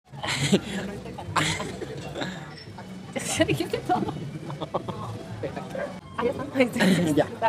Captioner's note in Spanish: Risas y murmullos